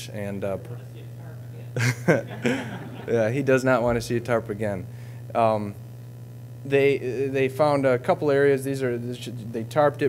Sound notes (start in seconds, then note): 1.8 audience laughing